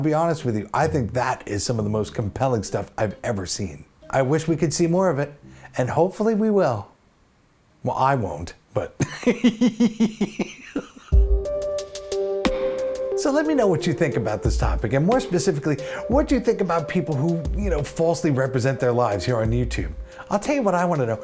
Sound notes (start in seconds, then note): 9.0 laughs